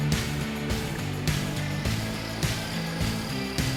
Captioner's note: machinery noises